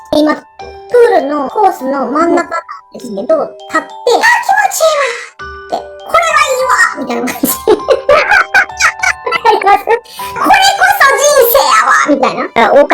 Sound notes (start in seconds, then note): 7.1 laugh; 7.1 laughs